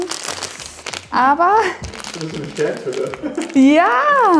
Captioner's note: laughing